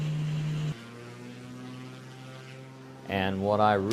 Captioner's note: background - Airplane take-off